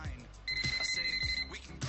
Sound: phone ringing

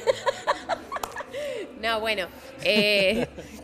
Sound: laughs

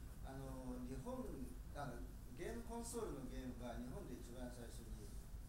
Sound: speaking in foreign language

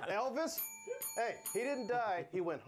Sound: bell rings

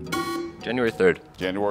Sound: alarm buzzes

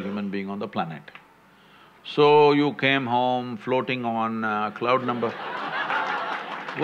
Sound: laughter

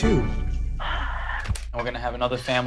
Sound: dramatic sound; sighs frustratingly

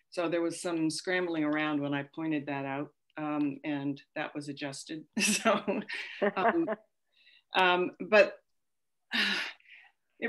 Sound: laughter

